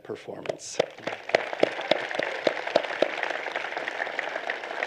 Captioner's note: applause